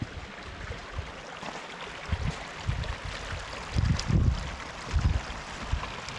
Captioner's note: wind blowing